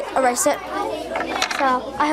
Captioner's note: students chattering